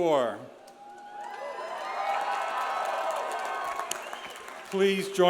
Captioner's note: audience cheers; audience applauds